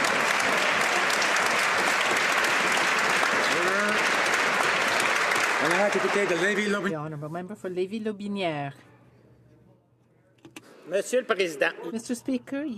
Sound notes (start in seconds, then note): 6.1 some Applause